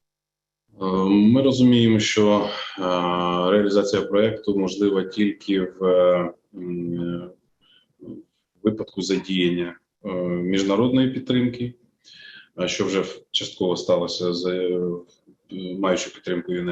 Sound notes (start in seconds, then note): 1.4 foreign Language Spoken